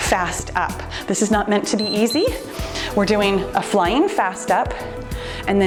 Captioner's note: timer beeps